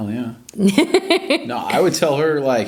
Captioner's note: laughs